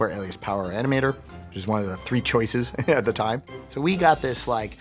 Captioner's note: laughing